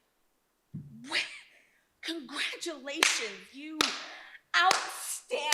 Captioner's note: claps